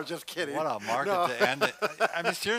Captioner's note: laughs